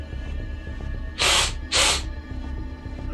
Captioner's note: sniffles